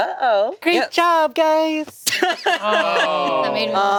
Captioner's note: group laughing